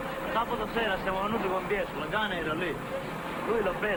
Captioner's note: speaking greek